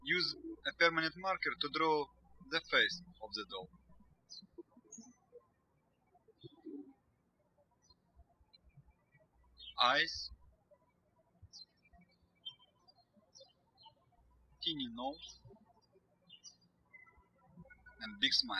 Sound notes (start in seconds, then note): 0.0 birds chirping; 5.0 birds chirping; 11.3 birds chirping